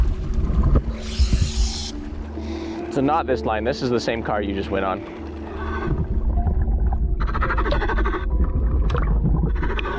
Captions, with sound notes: So not this line. This is the same car you just went on. (scuba breathing)